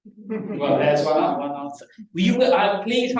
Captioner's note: laughter